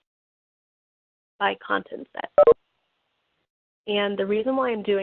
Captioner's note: beeping